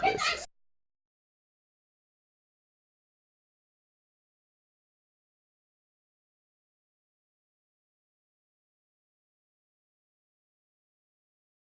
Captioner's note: silence